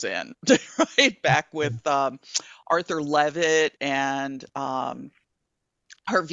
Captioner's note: chuckling